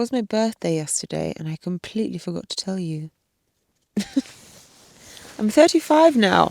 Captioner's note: chuckles